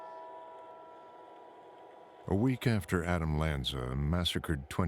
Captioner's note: bell tolls